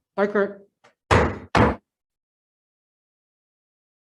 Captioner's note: gavel bangs